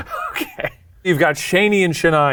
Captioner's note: laughs